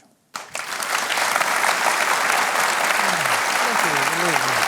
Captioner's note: applause